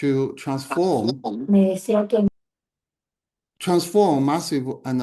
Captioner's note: attendee speaking foreign language